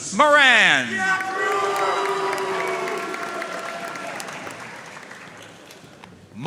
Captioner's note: audience cheering and applauding